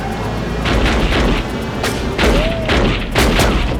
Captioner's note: gun firing